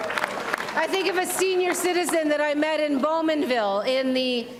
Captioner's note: applause